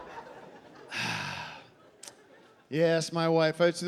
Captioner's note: sighing